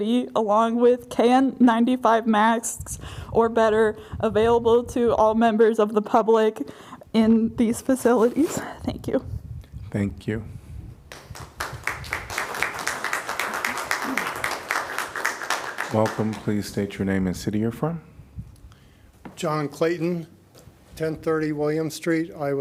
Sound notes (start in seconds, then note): 11.1 applause